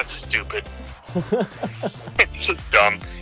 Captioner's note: laughs